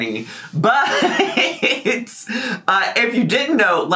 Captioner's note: laughs